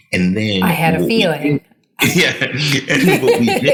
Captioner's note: laughing